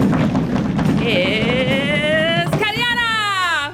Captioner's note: feet stamp